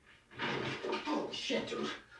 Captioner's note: door opening